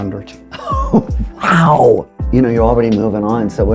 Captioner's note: laughs